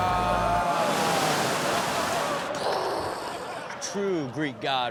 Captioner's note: audience laughs